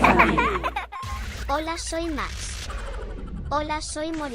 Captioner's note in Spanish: Risas